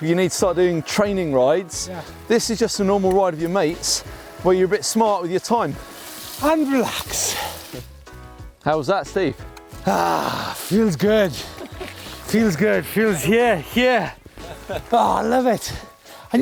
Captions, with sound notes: you need to start doing training rides, this is just a normal ride of your mates where you're a bit smart with your time. - And relax. - How was that Steve? - (sighs) Feels good. Feels, yeah, yeah. Ah, I love it.